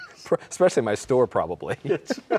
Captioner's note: both laughing